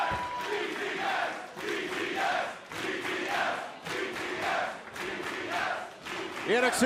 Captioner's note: fans chanting